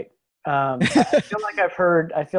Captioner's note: laughs